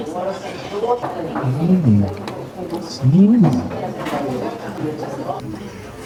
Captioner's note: surprised